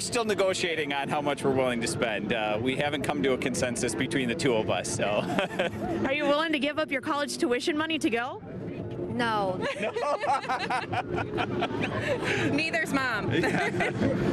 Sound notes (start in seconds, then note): 5.8 laughs